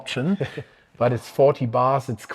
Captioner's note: chuckles